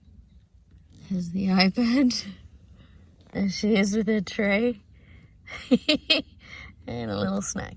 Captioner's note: chuckles